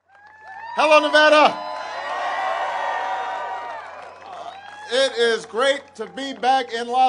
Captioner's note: applause